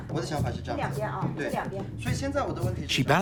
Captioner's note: speaking Tibetan